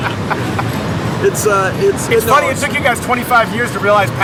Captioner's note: laughing